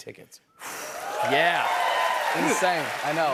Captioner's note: cheers and applause